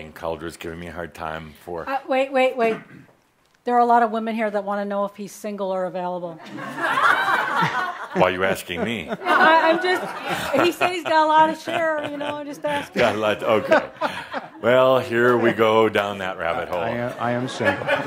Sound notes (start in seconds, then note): 6.7 laughter